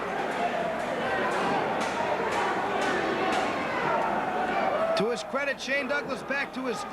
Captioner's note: crowd chatter